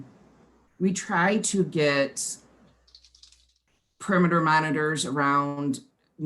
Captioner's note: clicking